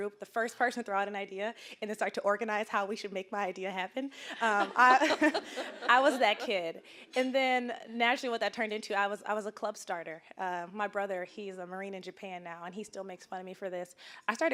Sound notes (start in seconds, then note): 4.3 all laughing